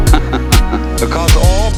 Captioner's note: man laughs